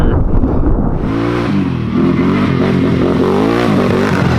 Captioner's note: ATV engine roaring